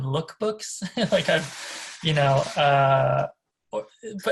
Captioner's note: laughs